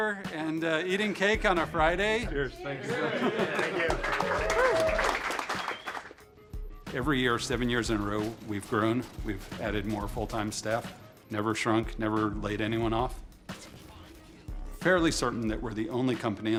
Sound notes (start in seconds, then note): 5.4 applaudissements